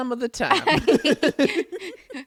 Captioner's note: laughs